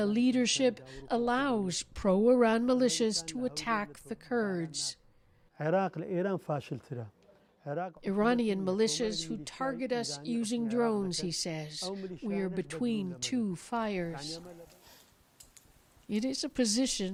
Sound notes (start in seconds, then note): 8.9 speaking alternate language